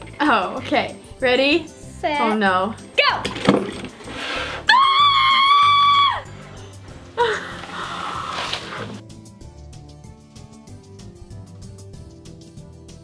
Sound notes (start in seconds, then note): 4.6 screams